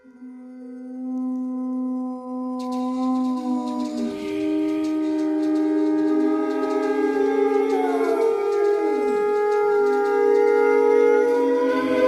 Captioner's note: short bursts of humming